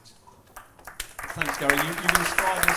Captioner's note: applause; applause drowns out sound